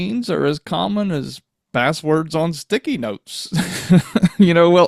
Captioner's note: laughs